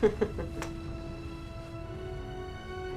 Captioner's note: laughing